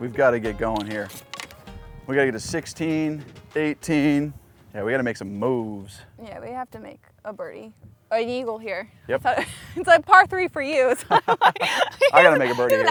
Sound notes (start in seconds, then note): 9.5 laughs; 10.9 laughs